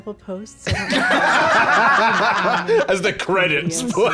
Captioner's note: all laughing